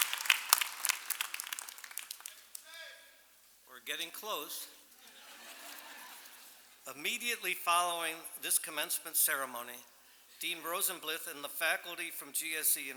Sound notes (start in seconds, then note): 5.0 laughter